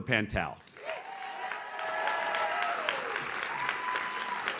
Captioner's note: audience cheers